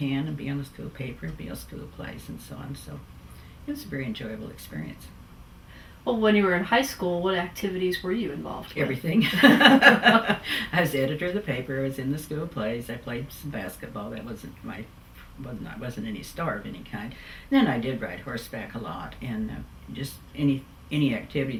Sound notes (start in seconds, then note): 9.2 laughs